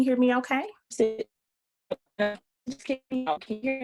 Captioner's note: choppy audio